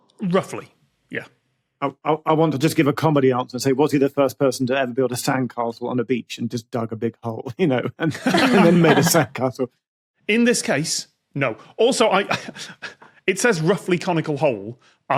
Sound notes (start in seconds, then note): 7.8 group chuckling